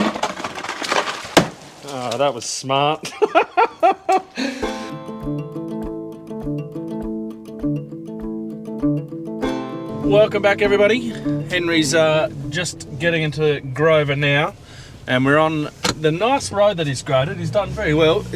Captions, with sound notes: Oh, that was smart. (laughs) Welcome back everybody. Henry's just getting into Grover now, and we're on the nice road that he has graded. He's done very well.